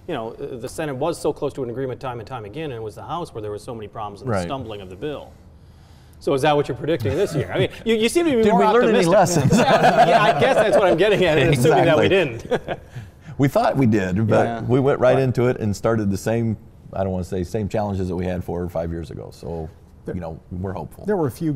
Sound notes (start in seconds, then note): 8.9 laughing